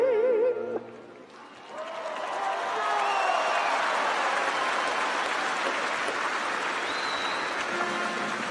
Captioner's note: applause and cheering